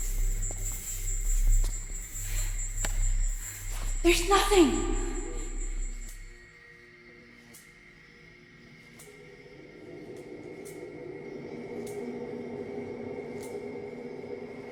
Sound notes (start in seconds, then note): 4.5 lights buzzing; 9.1 suspenseful music